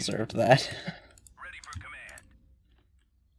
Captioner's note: laughs